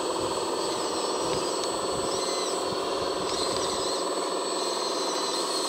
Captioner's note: roaring bulldozer engine